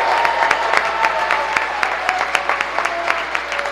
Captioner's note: cheering